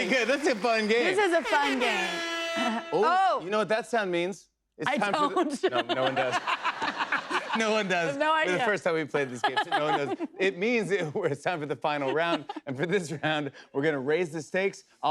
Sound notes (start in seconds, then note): 1.8 air horn blares; 4.9 laughter